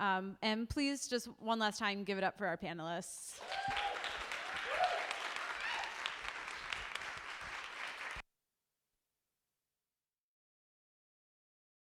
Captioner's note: applause